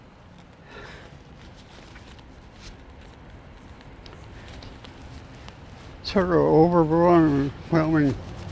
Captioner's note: breathes heavily